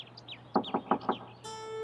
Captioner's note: knock on door